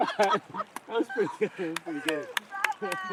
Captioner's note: laughing, clapping